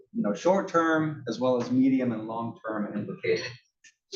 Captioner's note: cough